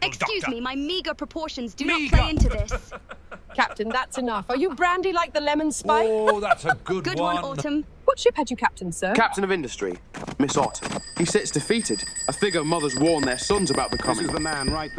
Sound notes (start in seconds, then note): 6.0 chuckles